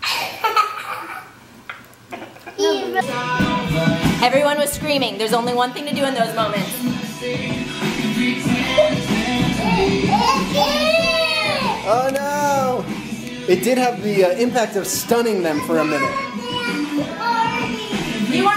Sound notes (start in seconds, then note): 0.2 child laughs; 3.0 dance music; 10.4 kids scream